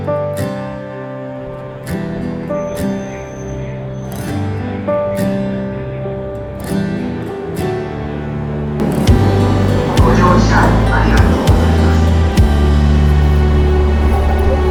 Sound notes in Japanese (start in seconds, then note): 10.1 駅の放送